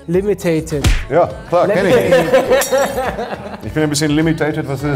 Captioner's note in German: Lachen, Klirren